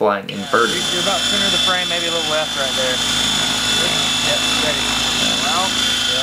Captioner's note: rotor noise